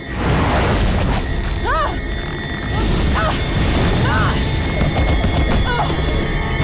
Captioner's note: grunting